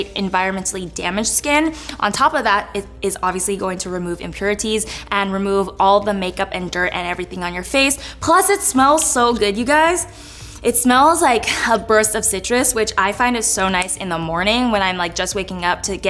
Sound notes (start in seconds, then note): 10.1 inhaling